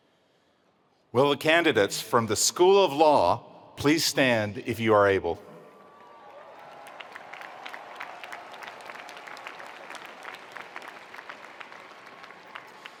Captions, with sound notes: - Will the candidates from the School of Law, please stand if you are able. (attendees applauding) (attendees cheering)